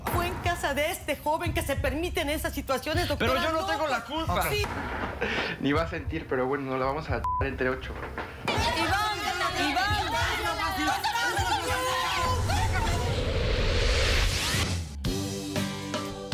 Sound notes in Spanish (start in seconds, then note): 10.5 Bip